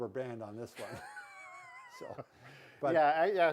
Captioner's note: chuckles